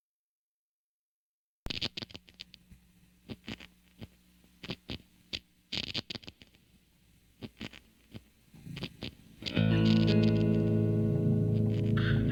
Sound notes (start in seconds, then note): 2.1 faint crackling sound; 7.4 atmospheric music plays